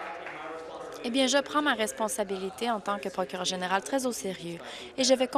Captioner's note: applause